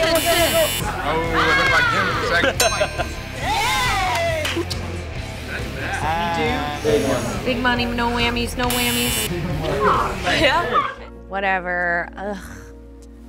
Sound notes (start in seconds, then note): 0.0 voiceover; 0.0 buzzer; 2.2 laughter; 2.5 bell dings; 6.9 voiceover; 8.7 buzzer